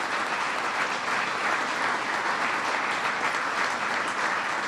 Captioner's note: applause